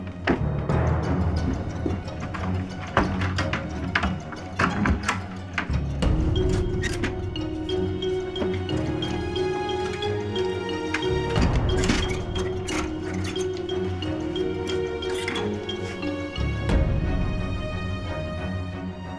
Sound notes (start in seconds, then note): 2.9 clattering